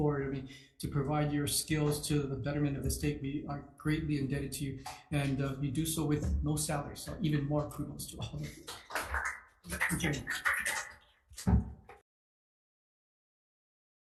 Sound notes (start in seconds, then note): 8.4 group applauds; 11.4 gavel bangs